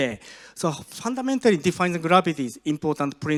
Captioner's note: none